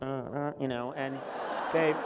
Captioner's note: laughter